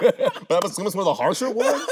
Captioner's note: both laughing